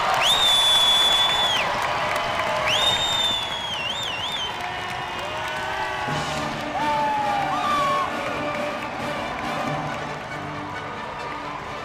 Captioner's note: cheers and applause